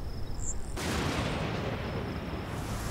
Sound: thunder crashes

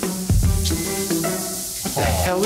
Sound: grill sizzling

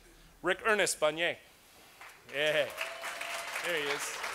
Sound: applause

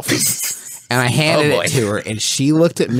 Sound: giggles

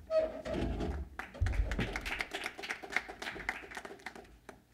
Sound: applause

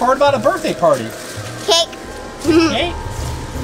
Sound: giggle

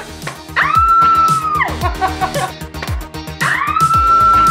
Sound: screaming

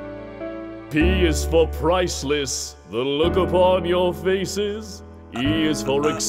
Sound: now with a refined voice

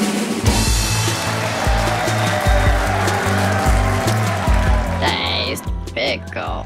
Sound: crowd claps and cheers

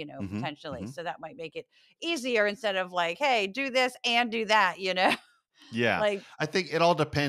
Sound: laugh

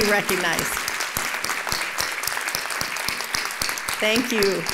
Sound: applause

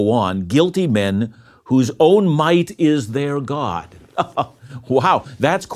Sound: laughs

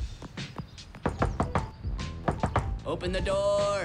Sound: knocking

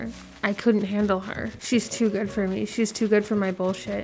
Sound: none

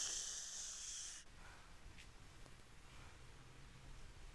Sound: sighs

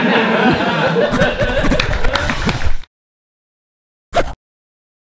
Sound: audience laughing; chalk scratching

